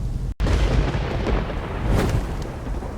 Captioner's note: thunder cracking; wings flapping